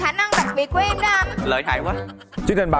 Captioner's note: sacarsm